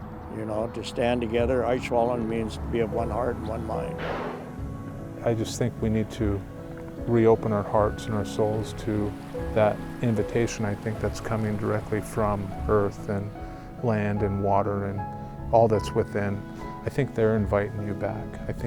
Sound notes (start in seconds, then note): 1.7 speaking Native language